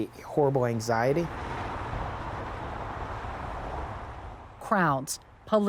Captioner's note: distant traffic